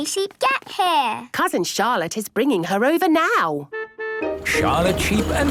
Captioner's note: honking